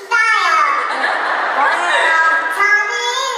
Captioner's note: nervous laughs